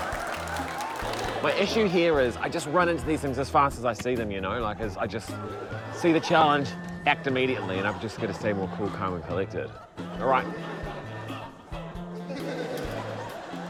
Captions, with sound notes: - My issue here is I just run into these things as fast as I see them, you know? Like, I just see the challenge, act immediately. And I've just gotta stay more cool, calm and collected. All right. - (LAUGHTER)